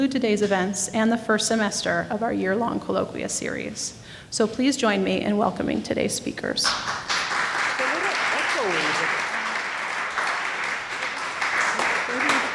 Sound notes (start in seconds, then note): 6.6 applauding